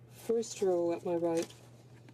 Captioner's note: speaking French